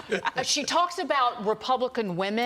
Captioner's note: laughter